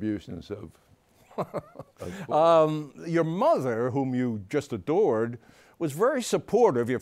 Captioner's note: laughing